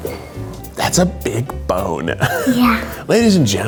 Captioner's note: laughs